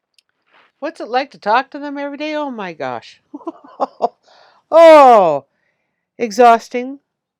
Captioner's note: chuckles